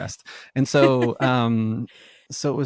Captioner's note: laughs